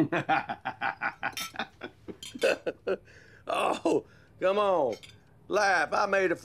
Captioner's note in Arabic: يضحك